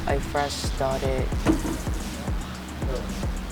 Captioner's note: door bangs